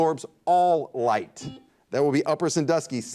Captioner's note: buzzer dings